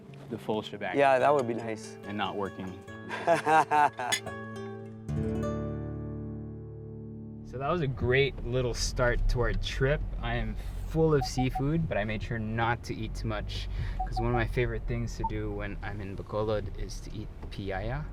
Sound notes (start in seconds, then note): 3.2 laughs